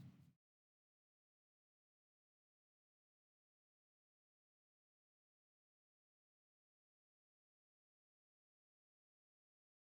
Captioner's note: no audio